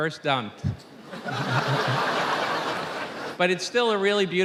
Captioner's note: audience laughing